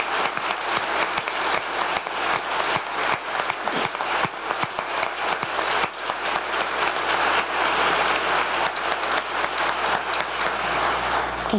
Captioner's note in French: applause